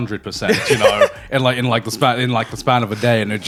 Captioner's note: laughing